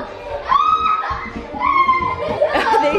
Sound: kids squealing

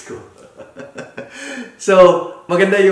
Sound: laughs

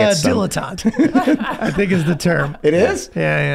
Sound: all laughing

